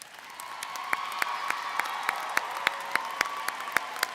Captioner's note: audience cheers